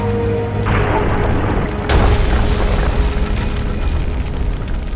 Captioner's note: explosion booms